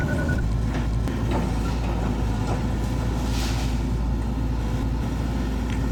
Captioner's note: engine revving